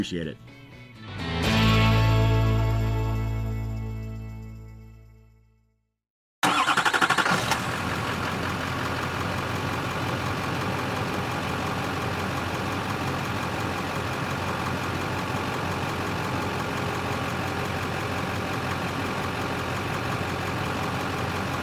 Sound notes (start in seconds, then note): 0.5 bright Music; 6.5 car Engine Revving